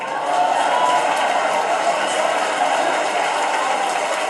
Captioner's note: crowd cheering